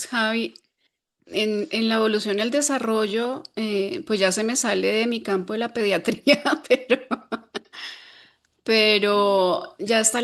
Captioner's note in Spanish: risas